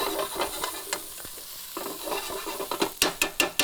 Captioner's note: pan scraping